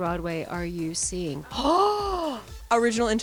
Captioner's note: gasps